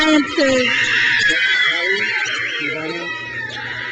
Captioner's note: crowd cheers